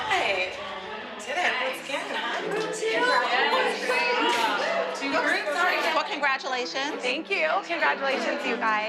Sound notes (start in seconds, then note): 2.4 indistinct chatter